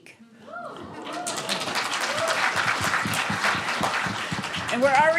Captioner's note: students cheering and applauding